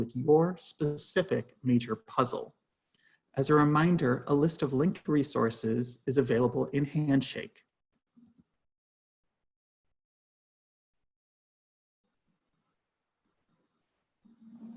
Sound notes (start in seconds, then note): 8.7 silence